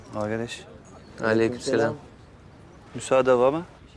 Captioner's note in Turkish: Hep bir ağızdan